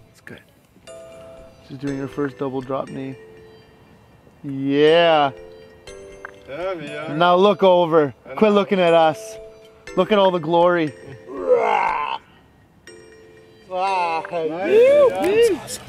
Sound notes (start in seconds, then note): 11.3 yelling growl; 13.8 whooping exclamations